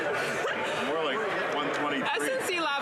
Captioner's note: cheering and Applause